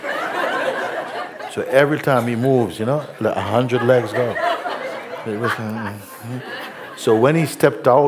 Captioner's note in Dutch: gelach